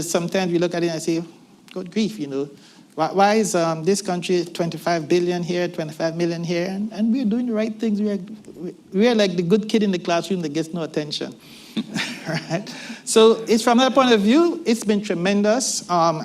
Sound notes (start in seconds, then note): 11.8 laughter